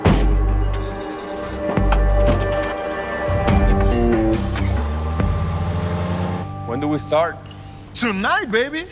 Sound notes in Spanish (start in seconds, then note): 0.7 Ruido del vehículo